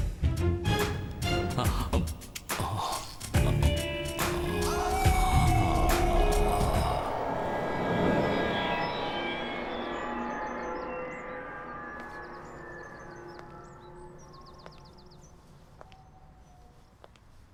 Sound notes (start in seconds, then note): 5.0 howl; 11.9 footsteps